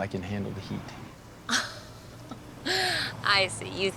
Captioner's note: laughs